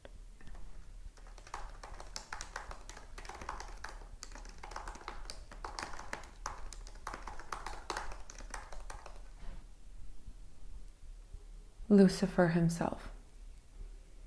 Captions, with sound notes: (keyboard clacks) "Lucifer himself."